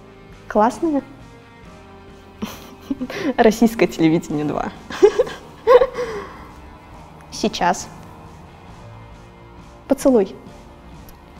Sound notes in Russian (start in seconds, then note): 6.0 смех